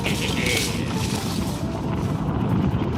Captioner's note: laughs